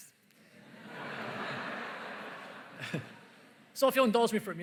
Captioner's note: laughter